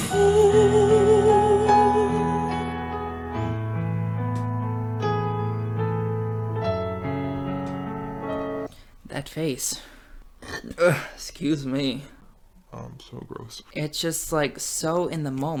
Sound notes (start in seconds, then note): 10.4 burps